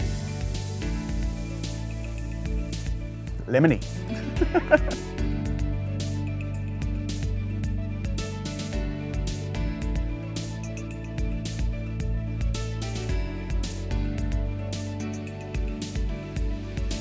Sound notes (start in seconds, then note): 0.0 bright music; 4.0 chuckles; 4.7 bright music